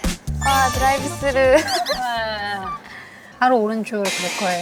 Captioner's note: squeals